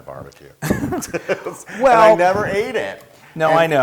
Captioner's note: laugh